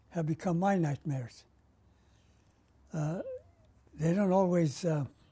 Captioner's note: pauses for 3 seconds